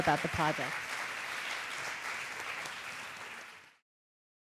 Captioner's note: audience applauding